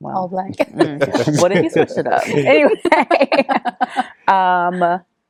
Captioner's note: laughing